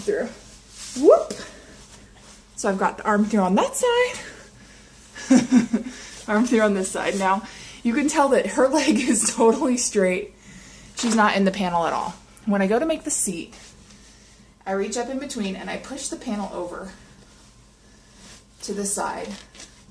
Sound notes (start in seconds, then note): 5.2 lauhgin